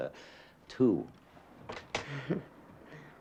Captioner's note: laughs sarcastically